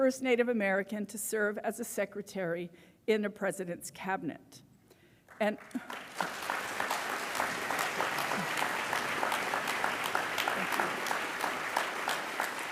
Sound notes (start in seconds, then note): 5.2 applause